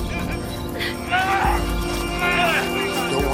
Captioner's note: Tommy grunting